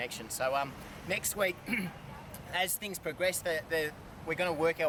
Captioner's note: clears throat